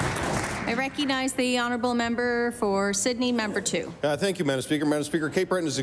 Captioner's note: applause